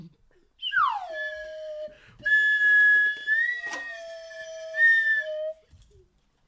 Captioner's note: slide whistle